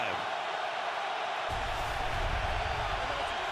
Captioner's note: crowd cheering